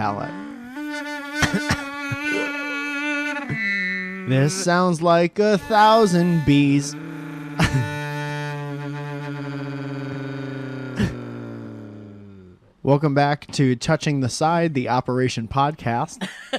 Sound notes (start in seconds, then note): 0.0 continues to abuse the pitch pipe; 8.1 prolonged droning sound